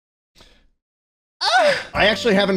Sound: sexual yell

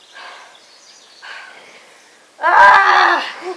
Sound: panting

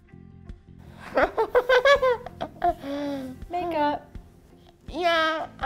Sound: laugh

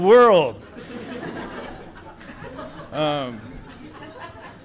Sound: audience laughs

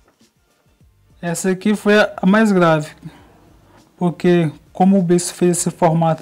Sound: speaking foreign language

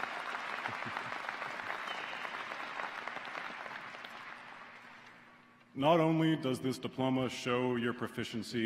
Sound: applause

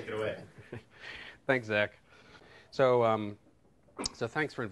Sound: chuckles

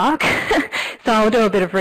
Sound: laughs

